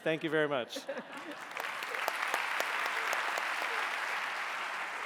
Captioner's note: audience applauding